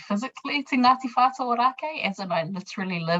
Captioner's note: speaking in foreign language